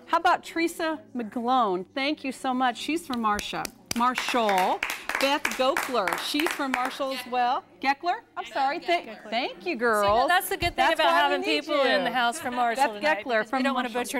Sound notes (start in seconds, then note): 4.1 �applause�